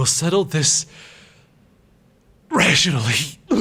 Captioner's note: violent puking